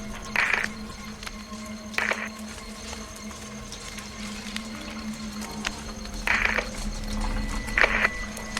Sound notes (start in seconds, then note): 0.0 pensive music continues; 0.1 static continues hissing